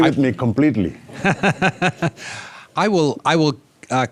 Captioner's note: all laughing